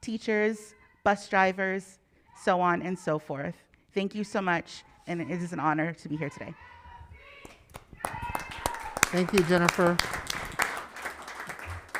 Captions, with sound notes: teachers, bus drivers, so on and so forth. Thank you so much. And it is an honor to be here today. (applauding) - Thank you, Jennifer.